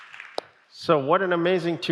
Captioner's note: applause